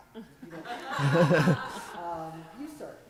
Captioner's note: laughter